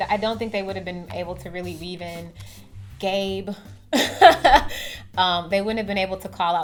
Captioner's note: laughs